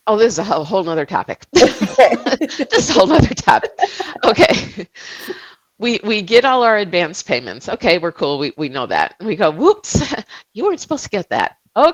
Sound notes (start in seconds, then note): 1.6 laughing together